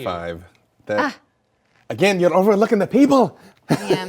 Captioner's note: laughs